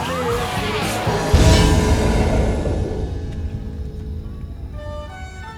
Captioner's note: explosion